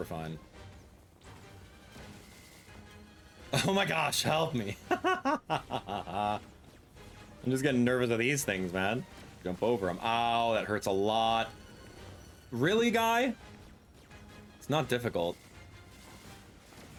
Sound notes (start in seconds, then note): 4.8 laughing